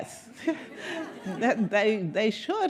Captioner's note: audience laughing